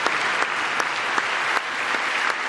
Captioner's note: applause